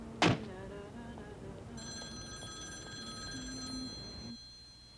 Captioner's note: phone ringing